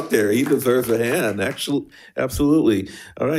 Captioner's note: attendees applauding